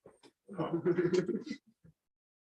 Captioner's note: laughter